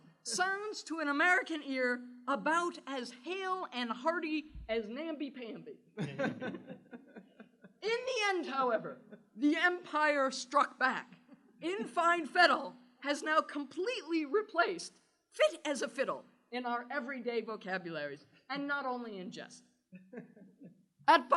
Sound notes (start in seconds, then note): 6.0 laughter